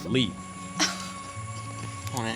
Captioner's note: gasps